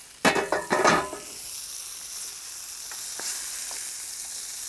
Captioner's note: pan sizzles